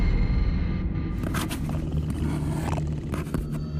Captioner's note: snarling